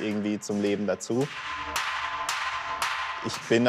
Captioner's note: bright hammering sound